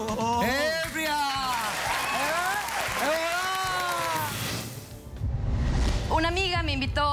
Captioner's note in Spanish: Exclamaciones; Aplausos